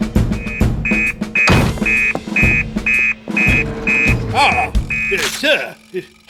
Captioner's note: heroic Music; fax Buzzes